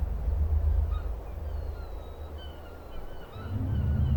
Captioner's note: gulls cry